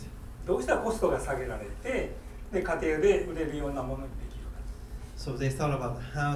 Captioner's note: speaking in foreign language